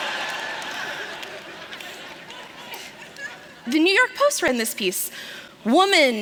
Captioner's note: laughter